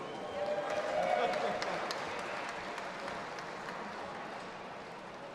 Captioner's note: audience applauding and cheering